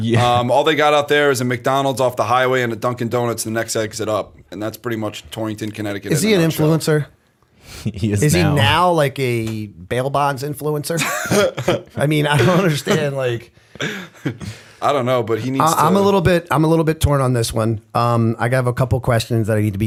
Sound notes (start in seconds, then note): 13.7 chuckle